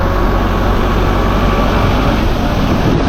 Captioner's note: sound of tractor